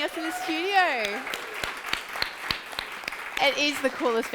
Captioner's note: audience clapping